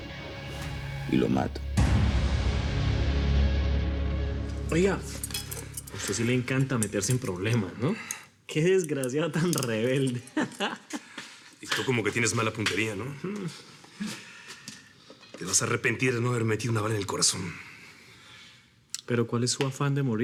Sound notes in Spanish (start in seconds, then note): 13.3 Risas